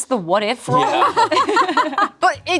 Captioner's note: group laughs